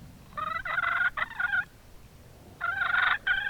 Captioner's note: turkey call